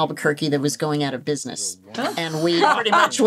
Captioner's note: laughs